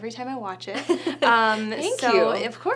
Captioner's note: Alison laughing